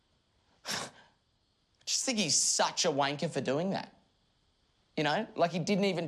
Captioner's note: scoffs